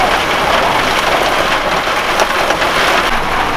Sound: heavy rain and wind sounds

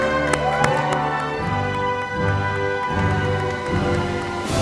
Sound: audience applauding

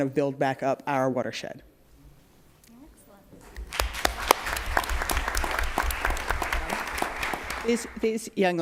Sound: applause

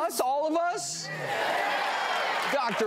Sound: crowd

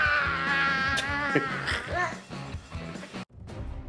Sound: Dino dad laughs; dramatic music plays

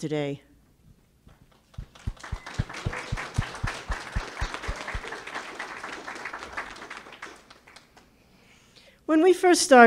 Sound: clapping

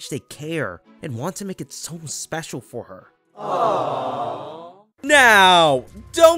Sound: crowd AWWWW

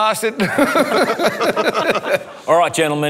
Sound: people laughing

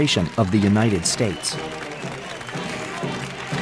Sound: applause and cheers; marching band playing

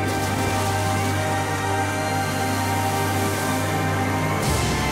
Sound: none

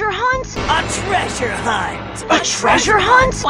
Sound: dramatic sound

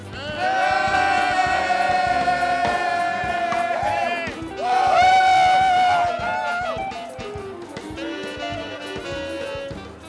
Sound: applause

